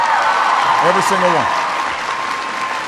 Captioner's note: applause